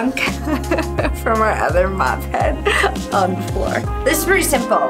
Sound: laughing

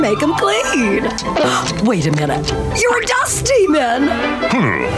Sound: gasping

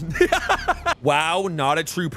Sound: laughs

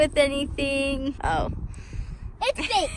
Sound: laughs

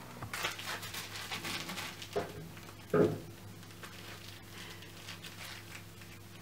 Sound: crinkling in the background

